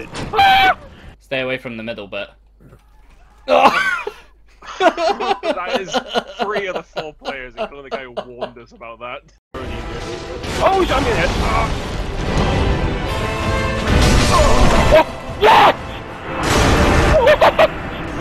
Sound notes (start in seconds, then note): 0.3 high pitched scream; 4.6 laughter